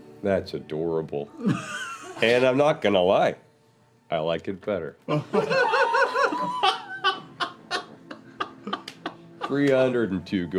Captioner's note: laughter